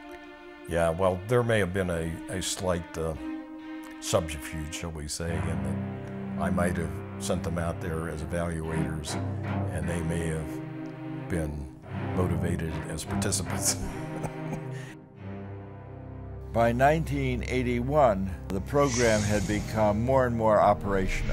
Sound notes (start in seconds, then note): 13.6 laughs